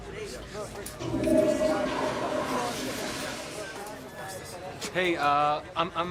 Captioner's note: toilet flushing